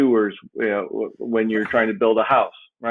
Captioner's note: chuckles